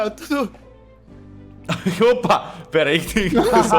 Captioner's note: laughs